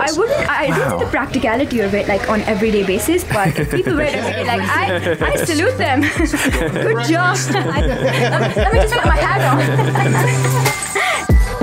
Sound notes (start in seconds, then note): 6.0 laughing; 8.1 laughing; 8.9 upbeat music